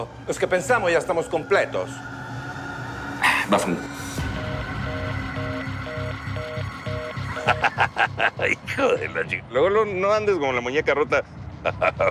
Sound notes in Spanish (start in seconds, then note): 5.8 Tonos de llamada desconectada; 7.3 Carcajadas